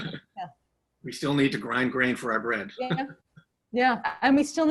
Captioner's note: laughs